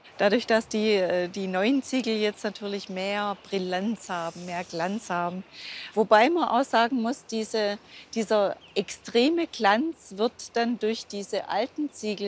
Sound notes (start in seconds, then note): none